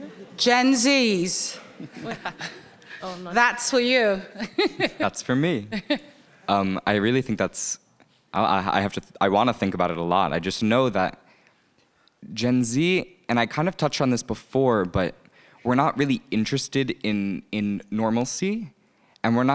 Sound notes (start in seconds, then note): 1.6 people chuckling; 4.6 laughing